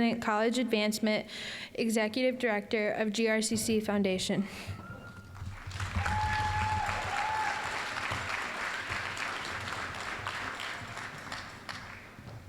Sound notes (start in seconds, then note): 5.4 applause, cheering; 9.2 applause